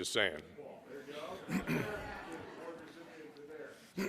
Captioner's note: laughing